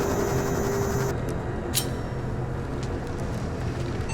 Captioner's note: interface whirring; knife clicks